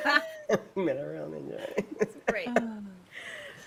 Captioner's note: people laughing; person laughing